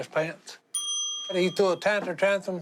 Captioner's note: ding